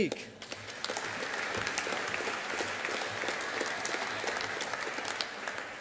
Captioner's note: audience applauding